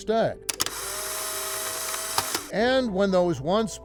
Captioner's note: camera snapping